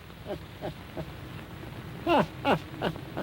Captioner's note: laughing